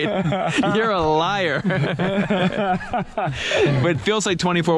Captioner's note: all laughing